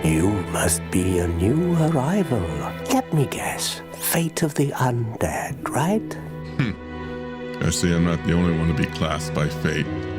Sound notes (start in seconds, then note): none